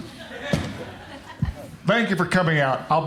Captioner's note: crowd laughs